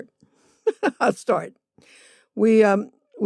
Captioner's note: laughter